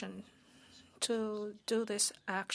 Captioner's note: speaking French